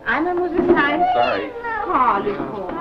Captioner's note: foreign language